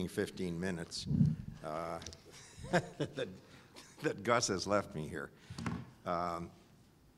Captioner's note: laugh